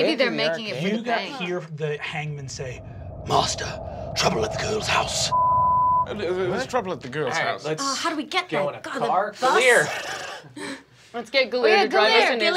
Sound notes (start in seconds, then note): 5.2 beeping